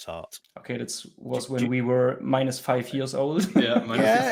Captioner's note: laughs